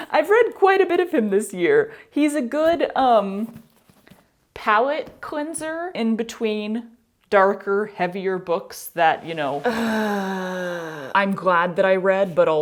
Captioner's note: mouth noise